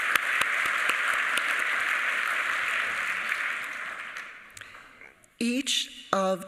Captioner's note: applause